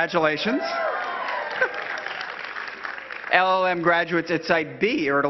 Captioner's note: cheering and clapping